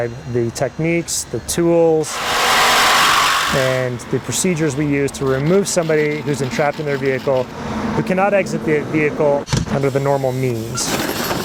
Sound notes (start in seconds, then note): 1.9 saw buzzing